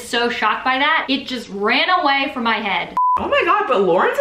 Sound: beep

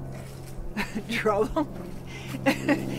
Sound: laughing

